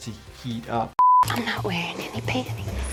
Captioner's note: screen beeping